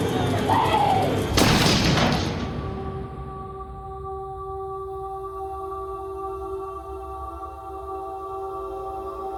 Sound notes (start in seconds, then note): 0.4 woman shrieks